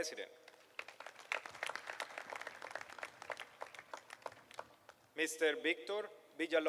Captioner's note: applause